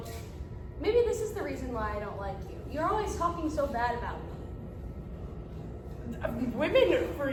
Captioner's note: stutters